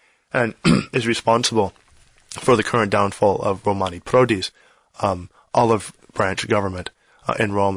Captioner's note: throat clear